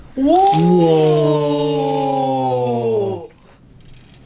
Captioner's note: greatest cheers ever